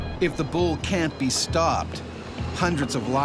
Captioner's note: voiceover